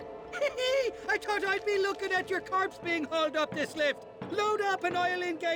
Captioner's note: laugh